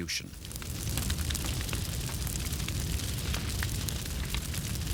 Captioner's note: fires crackling